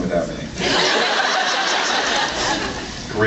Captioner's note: laughs